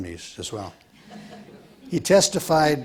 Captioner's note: audience laughs